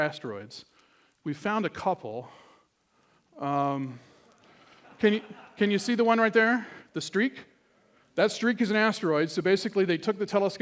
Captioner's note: laughter